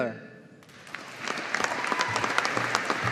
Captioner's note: audience applauding